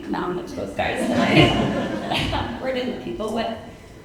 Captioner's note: audience chuckling